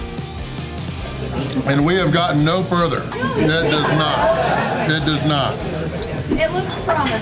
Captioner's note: crowd laughter